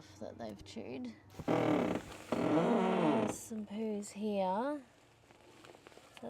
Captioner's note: door creaks